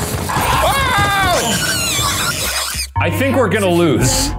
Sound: Murder Monkey screeching

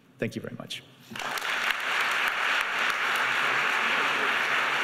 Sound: clapping

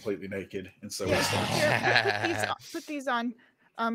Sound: laughs

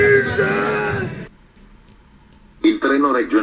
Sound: italian rail announcer's voice

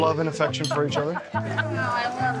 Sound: laughing

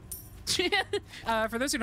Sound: laugh

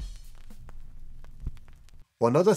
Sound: record needle crackling

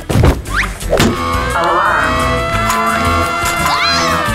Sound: alarm blaring

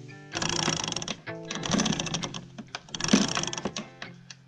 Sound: chain rattles

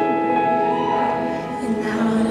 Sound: congregant cheers

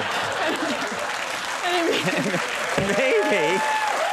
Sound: laughter

